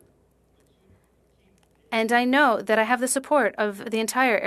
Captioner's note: speaking French